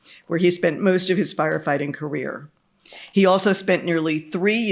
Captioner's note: none